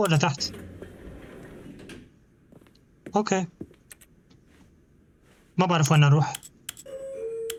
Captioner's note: door closes; door creaks; door creaks